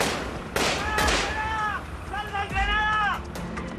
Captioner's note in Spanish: Gritos y exclamaciones